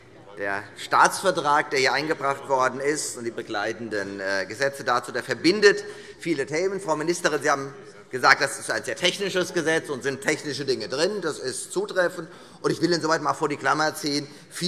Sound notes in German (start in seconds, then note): none